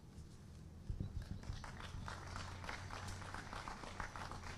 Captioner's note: applause